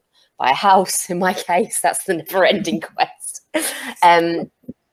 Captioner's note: chuckles